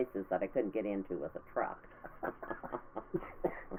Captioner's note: laughing